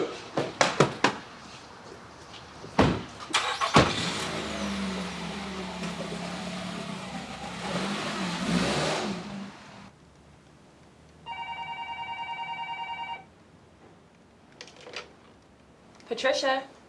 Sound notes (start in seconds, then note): 1.9 starts car; 11.2 phone rings